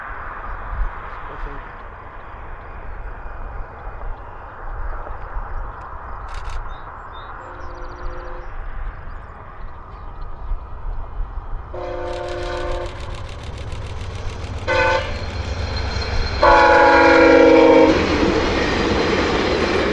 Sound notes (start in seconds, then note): 12.0 shutter clicking; 12.1 K5CA tone, shutter clicking; 14.6 K5CA blast; 16.4 K5CA tone at a lower pitch